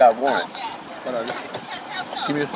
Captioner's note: indistinct phone chatter